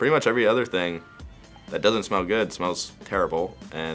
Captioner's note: none